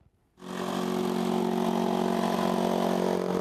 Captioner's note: whirring